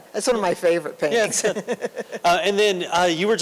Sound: laughter

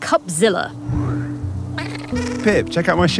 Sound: creatures squeaking

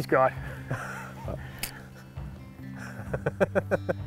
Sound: the guys laugh

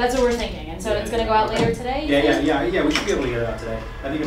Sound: chatter fades

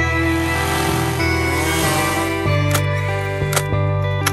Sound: chainsaw engine revs

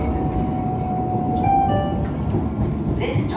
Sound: 2 Tone Chime

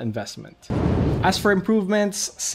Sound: whooshing

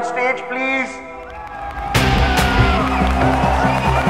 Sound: all cheering

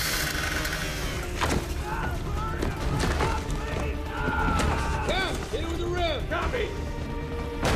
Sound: screams

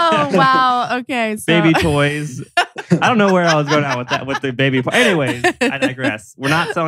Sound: laughs

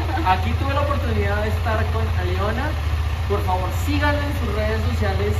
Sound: in Spanish

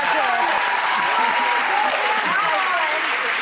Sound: applause

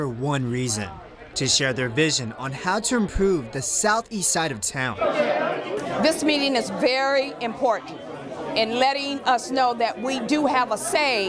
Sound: people talking during meeting

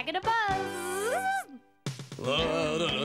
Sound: Tizzy buzzing; Jake humming

